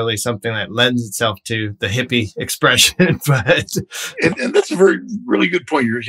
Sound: laughter

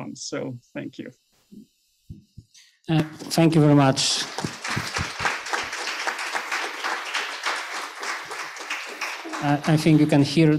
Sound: applause

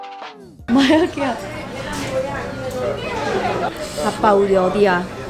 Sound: speaking in Koream

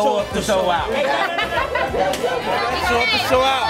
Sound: laughter

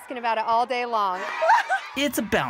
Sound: laughing

